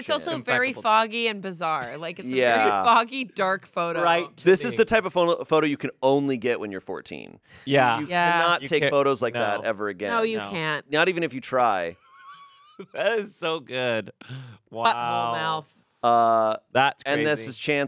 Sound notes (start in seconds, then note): 12.8 laughs